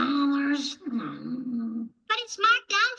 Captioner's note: whining